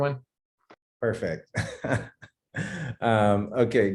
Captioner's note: laughing